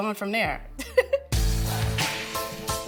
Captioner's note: laughing; upbeat music